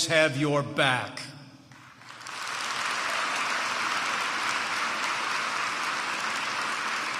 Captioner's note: applause